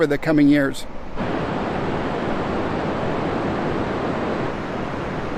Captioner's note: air whooshing